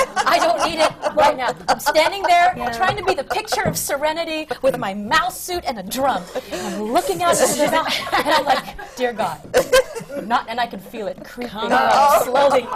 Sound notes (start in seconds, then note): 0.0 laughter; 10.0 phlegm